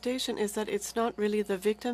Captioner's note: speaking French